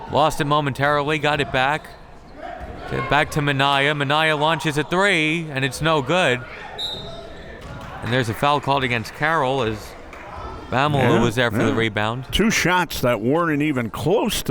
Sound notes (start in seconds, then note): 6.8 whistle tweeting